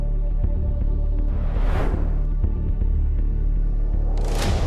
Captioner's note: air whooshes